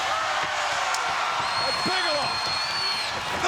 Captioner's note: crowd cheers